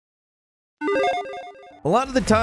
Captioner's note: logo dinging